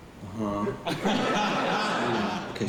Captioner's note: laughter